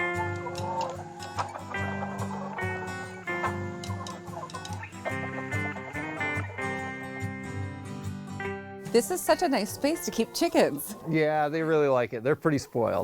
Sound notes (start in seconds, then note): 0.4 gentle folksy music; 3.5 chickens clucking